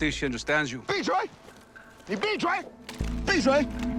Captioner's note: shouting in mandarin